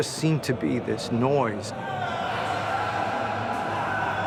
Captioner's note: screams